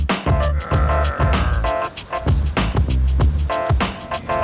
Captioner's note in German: furious grummeln